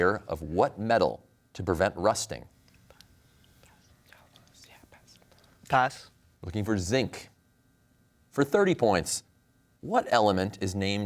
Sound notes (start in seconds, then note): 2.8 whispers